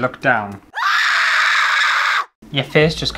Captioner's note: screams